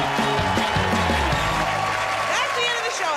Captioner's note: cheers and applause